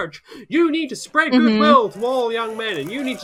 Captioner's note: audience cheers